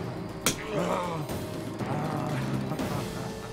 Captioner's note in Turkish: İnleme sesi